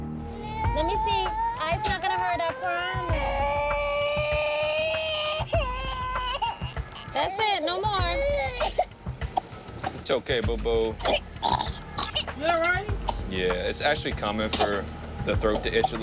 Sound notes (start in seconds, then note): 4.5 wailing; 8.6 coughing; 10.7 choking